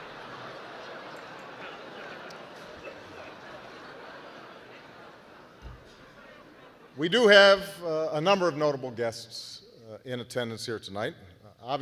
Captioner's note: laughter